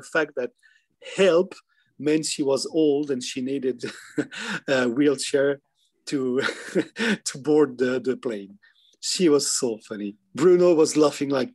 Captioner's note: giggling